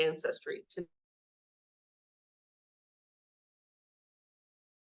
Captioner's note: audio cuts out